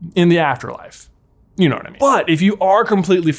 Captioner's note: none